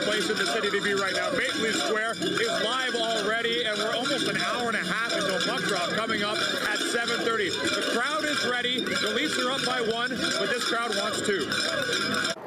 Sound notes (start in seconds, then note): 1.6 cheering